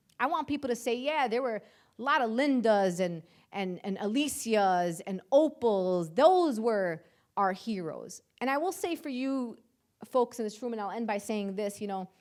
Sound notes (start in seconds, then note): none